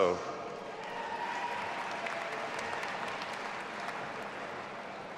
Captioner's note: audience applauding and cheering